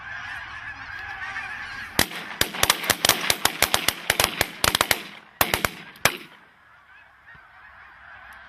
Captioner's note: gunshots